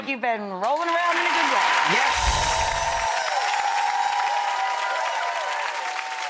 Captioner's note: cheering and clapping